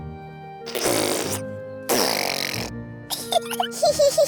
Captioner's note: sputtering; both giggling